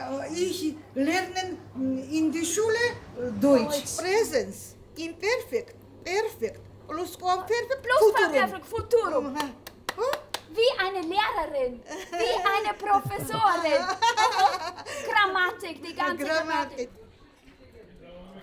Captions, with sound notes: I learned German at school. [in German] Present tense, imperfect, perfect, past perfect, future tense. [in German] – Like a teacher, like a professor. [in German] – [laughing] All the grammar … [in German]